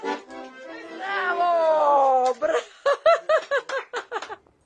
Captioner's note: laughs